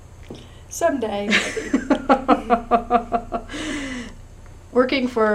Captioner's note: laughter